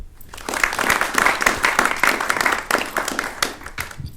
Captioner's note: attendees clapping